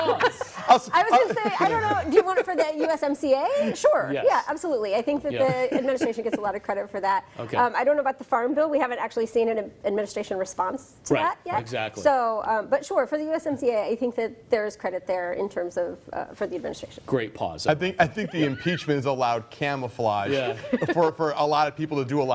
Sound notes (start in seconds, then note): 5.4 laughter